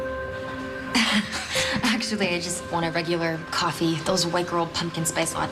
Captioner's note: laughs